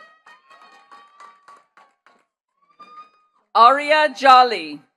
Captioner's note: attendees cheering and clapping